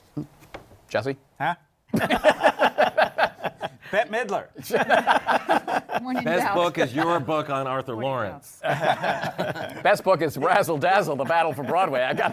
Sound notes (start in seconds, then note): 1.9 laughter